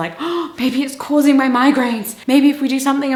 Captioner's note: gasps